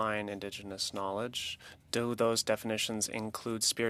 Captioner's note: speaking French